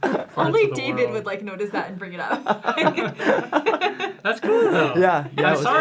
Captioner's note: laughter